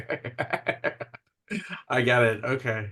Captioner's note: laughs